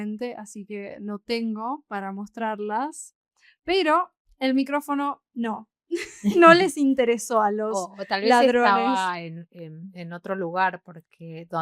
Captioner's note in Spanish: risas